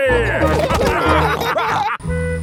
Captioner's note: all laughing